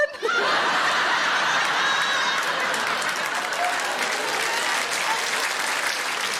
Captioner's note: audience laughing and applauding